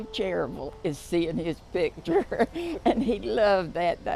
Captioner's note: chuckles